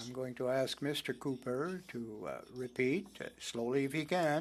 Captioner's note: speaking French